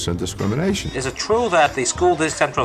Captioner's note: soundbite of archived recording